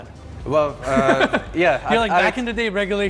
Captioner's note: laughs